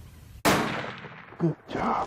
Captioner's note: gunshot